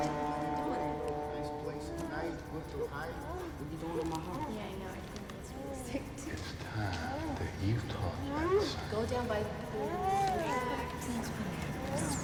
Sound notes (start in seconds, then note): 0.7 people chattering